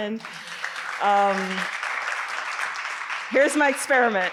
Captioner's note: audience applauding